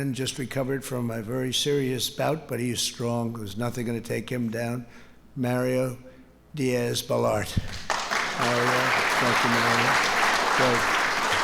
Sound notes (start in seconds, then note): 7.6 applause